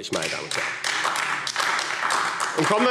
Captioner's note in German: Beifall AfD